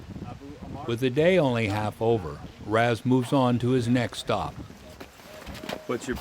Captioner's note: voiceover